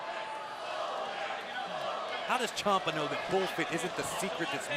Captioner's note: fans chanting